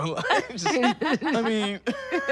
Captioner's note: laughing